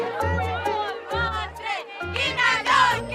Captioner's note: fan chant